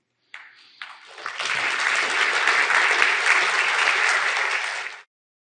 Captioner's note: audience applause